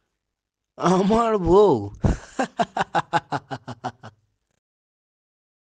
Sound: laughing

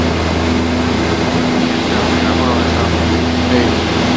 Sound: traffic

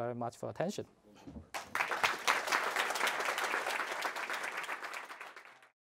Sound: applause

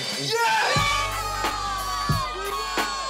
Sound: cheering drowns out speaker; group cheering

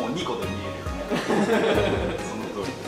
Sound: laugh

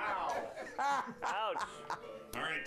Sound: laughter

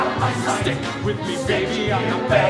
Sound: men, chanting

